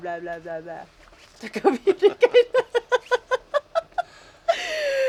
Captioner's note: laughing